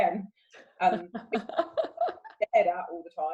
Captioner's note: laughs